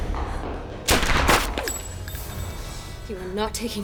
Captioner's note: gun blasts; bullet whizzes